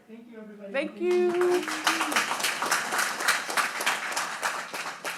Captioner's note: audience clapping